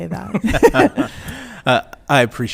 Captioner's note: laughing